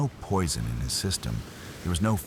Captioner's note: wind Blowing